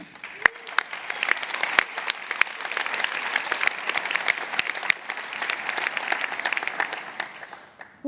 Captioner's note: applause